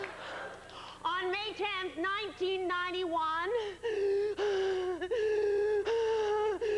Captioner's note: pained breathing